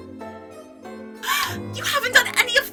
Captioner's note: gasp